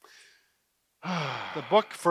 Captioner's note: sighs